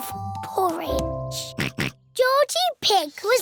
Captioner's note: oinks